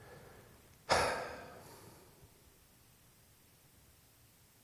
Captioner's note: Disco sighs